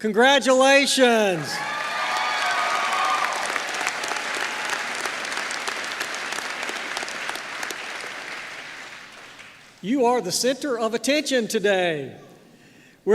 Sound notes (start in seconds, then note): 1.5 applause